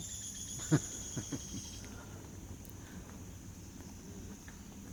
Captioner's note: bird sings loudly; laughs